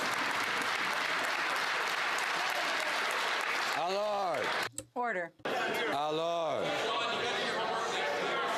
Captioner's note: some Applause